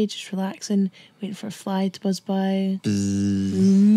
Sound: buzzes

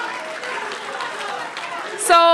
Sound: applause

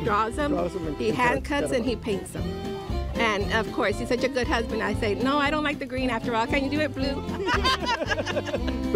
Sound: laughter

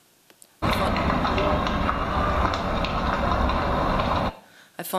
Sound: house burning

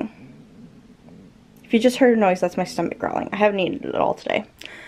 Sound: stomach growls

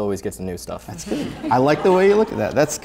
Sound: laughter

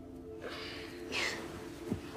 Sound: scoffs

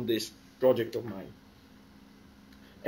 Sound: pause

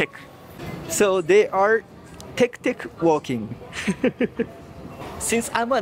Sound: laughs

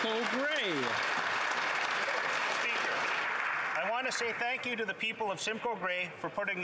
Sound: some Applause

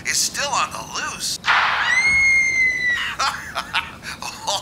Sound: screaming sound effect

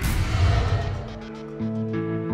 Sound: whoosh; soft gentle music

